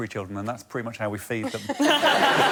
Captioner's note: laughter